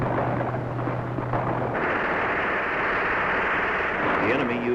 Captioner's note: gun shots